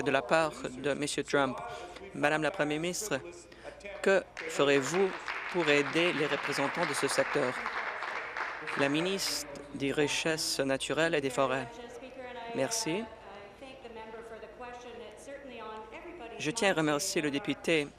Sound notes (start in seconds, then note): 9.8 applause